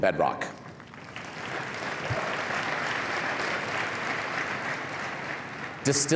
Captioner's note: cheering and applause